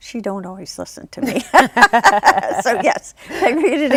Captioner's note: laughs